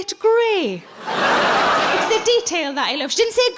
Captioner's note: audience laughing